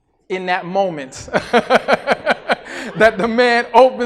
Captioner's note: laughs